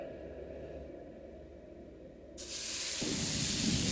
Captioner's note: searing